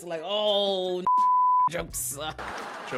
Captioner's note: beep